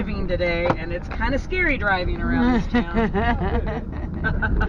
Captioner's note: laughs